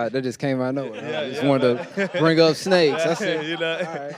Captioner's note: panelists laughing